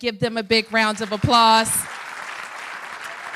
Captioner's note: applause